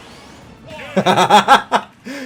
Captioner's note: laughing